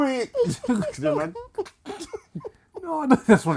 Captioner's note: laughter